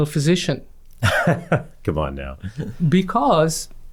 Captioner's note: laughs